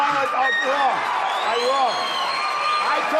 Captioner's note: applause